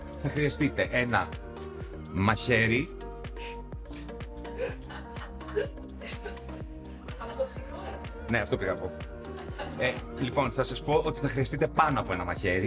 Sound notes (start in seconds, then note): 4.4 laughs